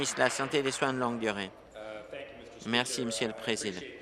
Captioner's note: applause